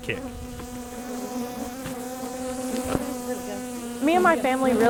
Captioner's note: bees buzzing